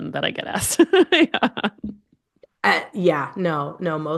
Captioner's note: laughs